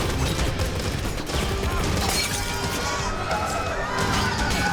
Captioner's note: bullets firing